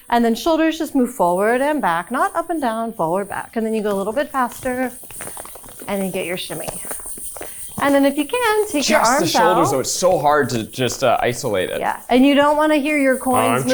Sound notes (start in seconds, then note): 7.0 hip scarf jingling